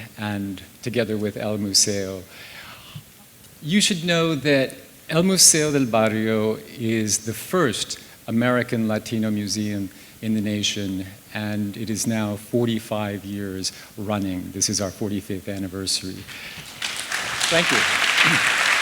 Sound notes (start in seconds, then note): 16.2 applause